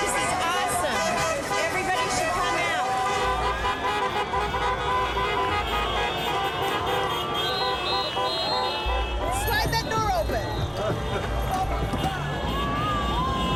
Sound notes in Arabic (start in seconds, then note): 3.2 البوق; 10.6 مصور يضحك